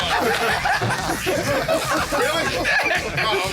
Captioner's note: laughter